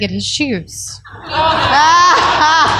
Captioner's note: laughter